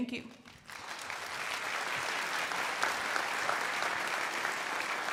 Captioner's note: crowd applauding